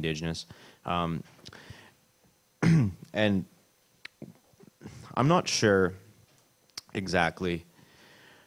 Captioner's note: clears throat